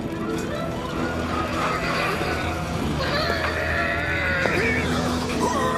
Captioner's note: whinnying